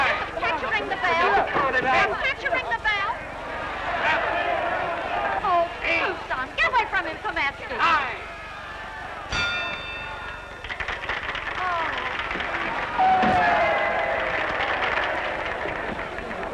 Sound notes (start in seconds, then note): 9.3 bell ringing; 13.8 cheering